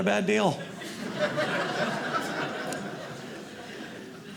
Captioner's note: audience laughing